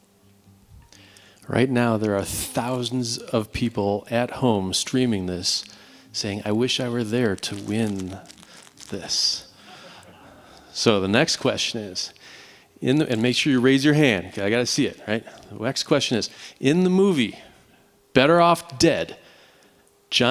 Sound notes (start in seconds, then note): 9.6 laughter